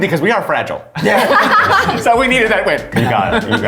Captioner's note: laughs